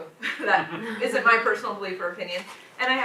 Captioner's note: groans